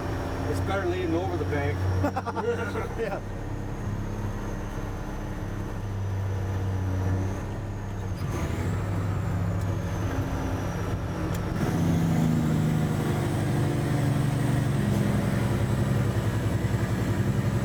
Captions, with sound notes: It's better leaning over the bank. (laughing)